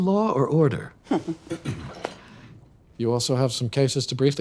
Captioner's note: DA chuckles